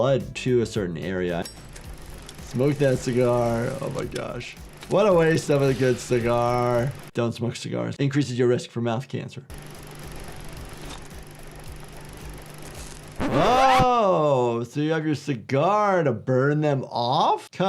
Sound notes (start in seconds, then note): 1.2 lighter clinks; 12.7 tape squeals